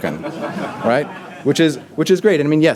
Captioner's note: audience laughter